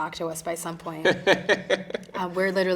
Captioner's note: interviewer chuckling